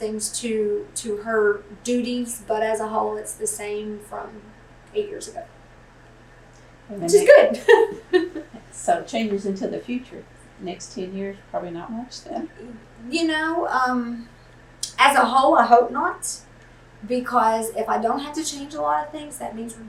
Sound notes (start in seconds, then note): 7.1 laughs